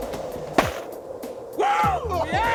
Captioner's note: snowball thuds